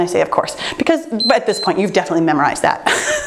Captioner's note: timer beeps